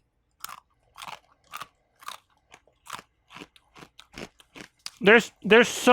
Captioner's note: crunch noises